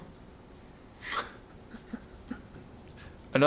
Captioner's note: laughs